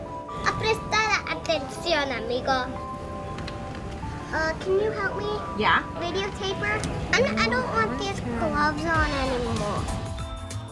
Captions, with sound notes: (speaking in Spanish) - Uh, can you help me? - Yeah. - Video taper? I don't want these gloves on any more.